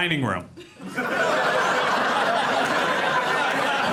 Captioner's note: audience laughs